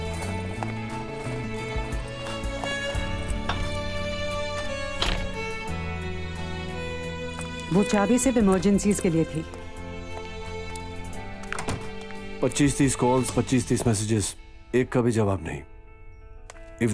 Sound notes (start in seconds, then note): 4.4 Door opens